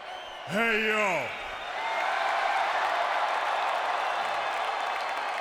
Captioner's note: audience cheering